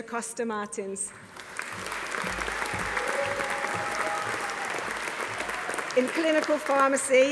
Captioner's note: audience applauding; audience cheering